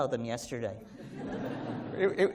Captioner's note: laughter